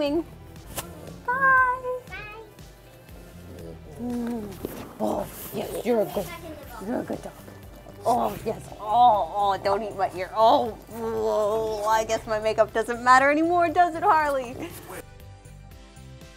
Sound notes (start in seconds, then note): 10.6 grunts